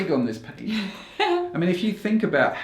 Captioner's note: laughs